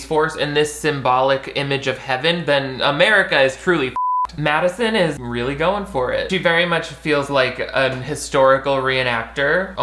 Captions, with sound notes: in this symbolic image of heaven, then America is truly (beep). Madison is really going for it. She very much feels like a historical reenactor,